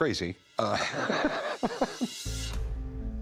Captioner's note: laughs